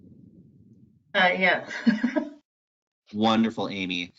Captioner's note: laughs